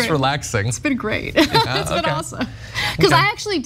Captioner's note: laugh